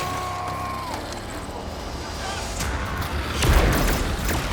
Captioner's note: lasers firing